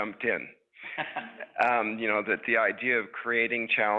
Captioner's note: laughs